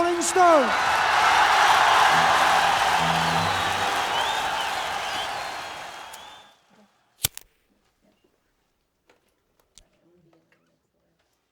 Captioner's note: audience cheering